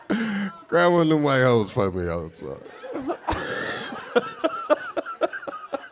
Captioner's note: laughing